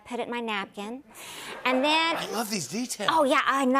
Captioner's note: laughter